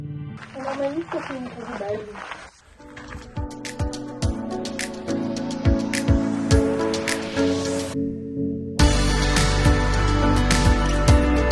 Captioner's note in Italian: Applauso